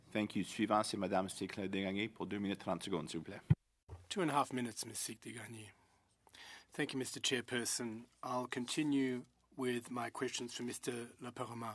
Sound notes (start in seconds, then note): 4.0 speaking in French